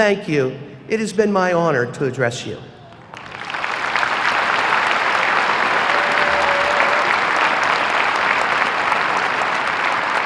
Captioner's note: applause